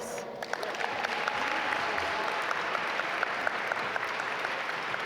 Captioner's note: audience applaud